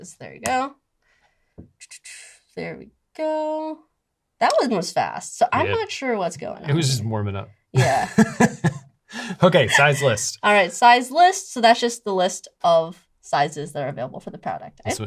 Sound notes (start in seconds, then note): 7.7 laughs